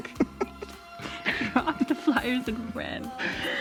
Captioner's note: both laughing